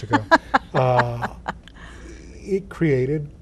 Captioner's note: laughing